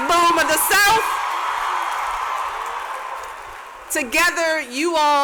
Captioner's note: cheers and applause